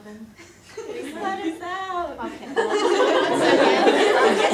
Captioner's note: audience laughter